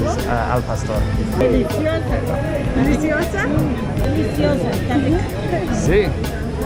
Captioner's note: speaking foreign language